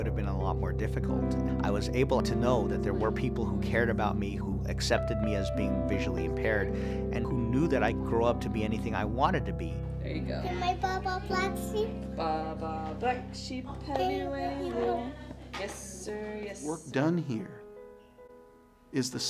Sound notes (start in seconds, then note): 10.3 female voice; 12.7 female voice sings